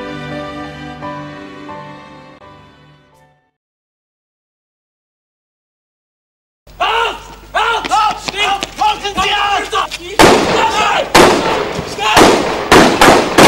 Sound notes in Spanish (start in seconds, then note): 3.6 silencio; 6.7 gritos; 10.1 disparos